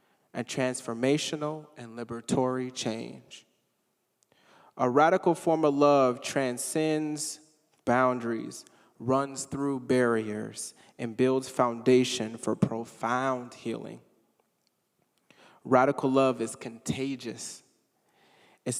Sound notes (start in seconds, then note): none